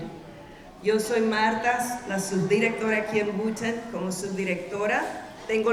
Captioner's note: speaking in Spanish